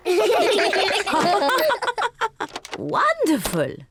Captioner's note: all laugh